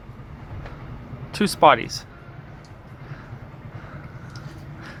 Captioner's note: laughs